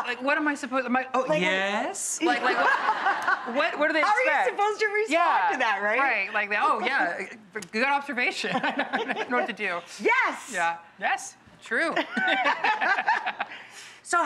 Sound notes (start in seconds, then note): 2.3 audience laughs; 8.9 laughs; 13.0 laughs